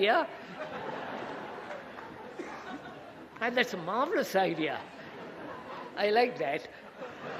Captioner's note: laughter